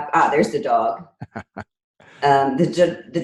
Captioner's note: laughing